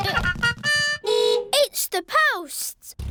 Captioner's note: horn beeps